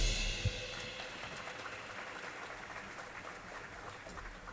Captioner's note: audience applauding